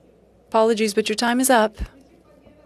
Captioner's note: speaking French